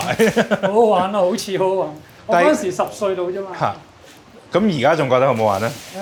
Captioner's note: speaking in foreign language